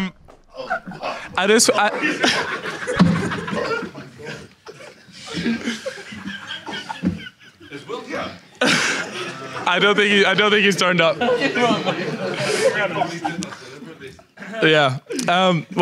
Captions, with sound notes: - Is Will here? - I don't think he's turned up. (audience laughs) Yeah.